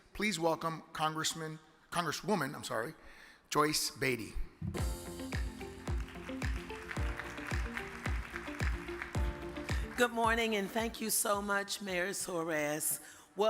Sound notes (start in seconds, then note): 4.7 upbeat music; 4.9 audience clapping